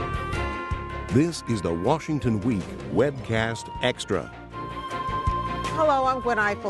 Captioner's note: voiceover